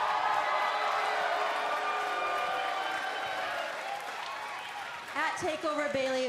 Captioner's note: cheers and applause